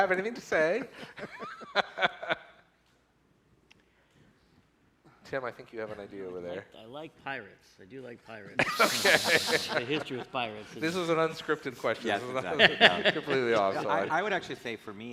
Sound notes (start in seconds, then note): 8.5 laughs